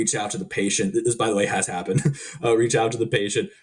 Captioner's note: chuckling